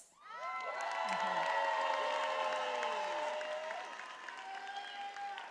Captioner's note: attendees applauding and cheering